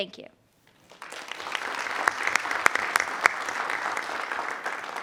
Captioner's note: group applauds